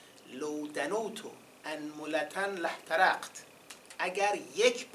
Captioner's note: quoting the hadīth in Arabic